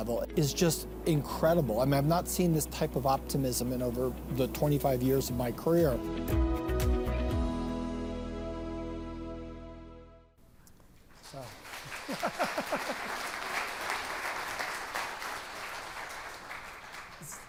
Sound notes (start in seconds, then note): 5.4 upbeat music ends; 11.2 attendees applauding